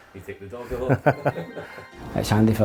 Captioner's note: man chuckles